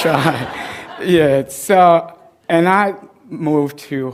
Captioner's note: laughter